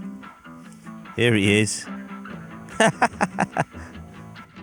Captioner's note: laughs